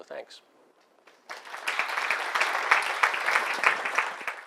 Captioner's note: applause